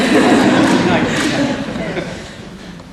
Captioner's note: crowd laughs